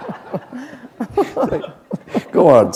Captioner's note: laughter